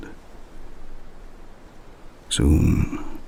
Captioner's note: wind and birdsong